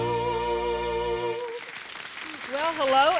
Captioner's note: audience applauds